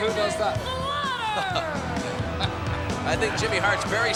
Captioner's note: Sean and Alfred laugh